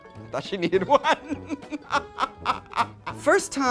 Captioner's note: laughs